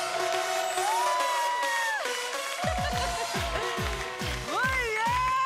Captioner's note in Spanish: Aplausos